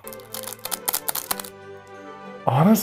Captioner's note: plastic crinkles